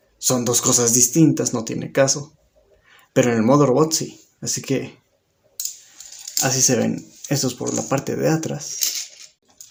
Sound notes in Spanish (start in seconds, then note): 0.0 Silencio; 2.4 Silencio